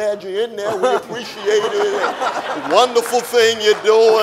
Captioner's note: audience laughing